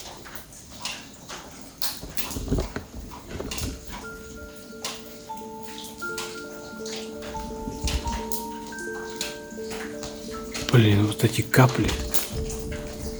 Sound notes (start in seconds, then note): 0.0 drop sounds; 3.6 sounds of drops; 3.7 sad music; 11.5 sounds of dripping water interfere; 13.0 drip sound; 13.0 sad music